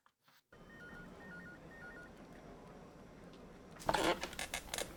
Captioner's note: phone ringing; chair creaking